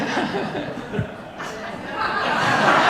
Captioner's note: audience laughing